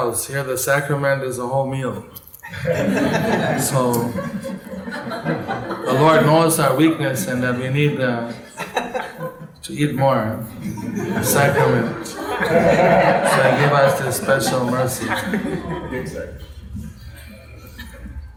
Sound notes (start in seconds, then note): 11.9 laughter